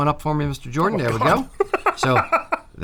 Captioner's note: cackles